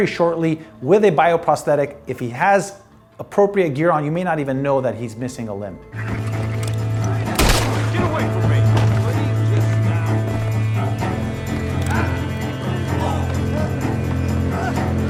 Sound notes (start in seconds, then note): 7.3 gunshots; 12.1 dramatic music